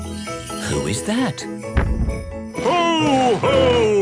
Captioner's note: thump!